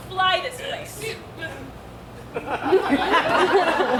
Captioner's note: Lysander stammers; audience laughs